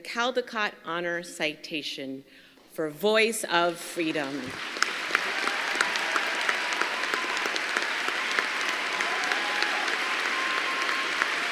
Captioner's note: applause